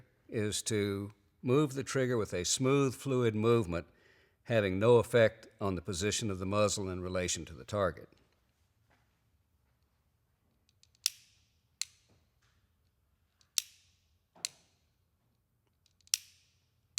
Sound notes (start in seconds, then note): 10.6 pistol clicks